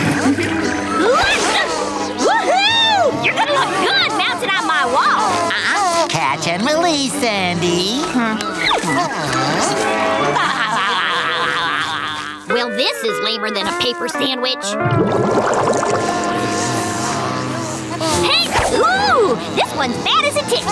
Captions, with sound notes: [grunting] Woo hoo! You're gonna look good mounted on my wall! Nuh huh, catch and release Sandy. Well, this is lamer than a paper sandwich. [buzzing] [grunting] Oh, this one's mad as a tick.